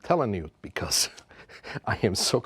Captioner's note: chuckles